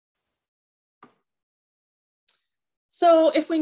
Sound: mouse clicking

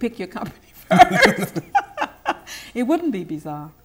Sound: laughter

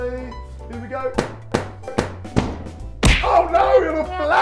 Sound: balloon pops

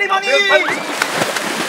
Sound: splash splash

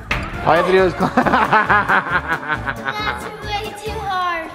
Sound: laughing

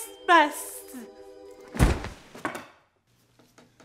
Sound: cane clatters; whump

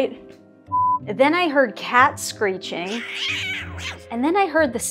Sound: cats screeching

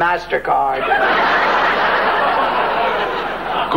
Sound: audience laughing

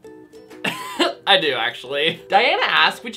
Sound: laughs

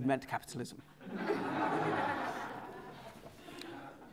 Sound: laughter

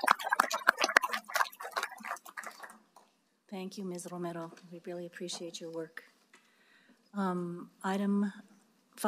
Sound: applause

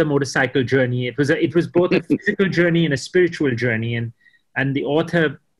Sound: Sadhguru laughs

